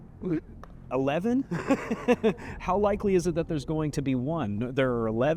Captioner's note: laughs